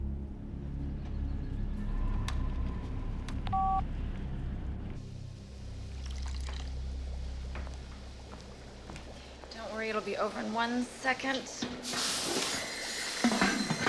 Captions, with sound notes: ( beeps ) ( water boiling ) DON'T WORRY, IT'LL BE OVER IN ONE SECOND.